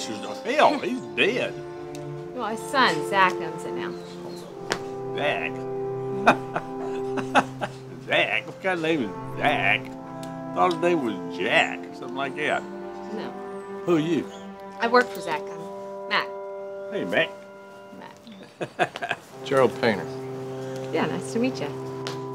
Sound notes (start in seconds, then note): 6.0 laughing